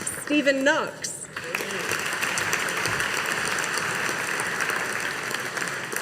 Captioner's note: audience applauding